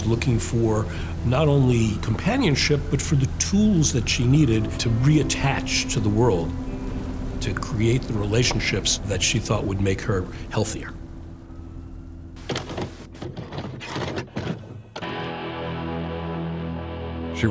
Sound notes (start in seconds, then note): 12.4 VHS tape loading